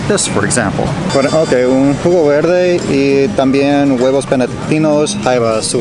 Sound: speaking in foreign language

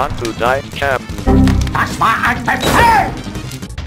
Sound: swears in something

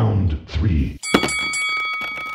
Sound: ding Ding Ding

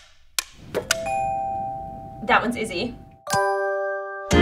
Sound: upbeat music; clock ticking; bell dinging

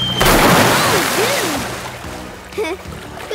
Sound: none

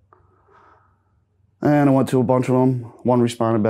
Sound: sighing deeply

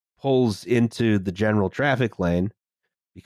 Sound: none

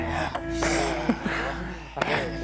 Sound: deep sigh

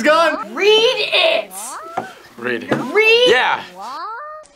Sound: woman speaks Chinese; woman screams

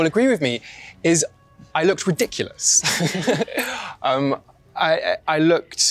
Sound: laughs

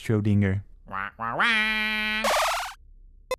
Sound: commanding squawk

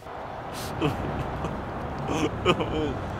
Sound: sobs

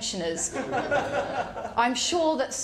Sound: laughter

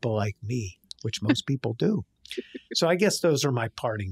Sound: chuckling

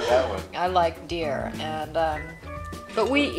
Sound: voiceover

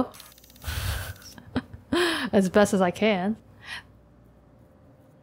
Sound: laughs

